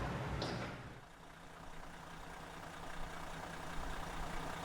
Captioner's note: engine humming